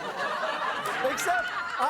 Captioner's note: audience laughing